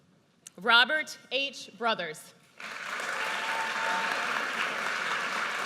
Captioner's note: audience cheers